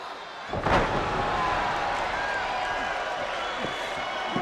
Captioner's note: body thudding